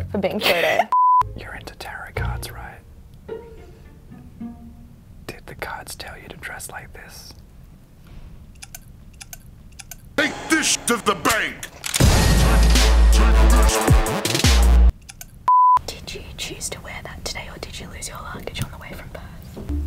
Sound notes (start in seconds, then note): 0.9 beep; 9.7 clicking; 12.0 thumping hip-hop music; 15.0 click; 15.5 beep